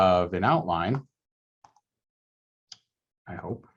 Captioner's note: mouse clicks